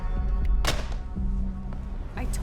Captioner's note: phone slams on receiver